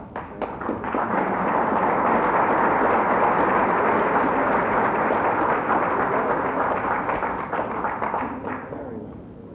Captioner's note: applause